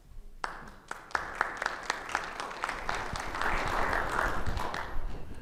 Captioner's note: audience applauding